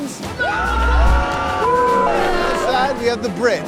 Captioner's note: all cheering and booing